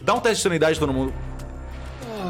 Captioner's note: moans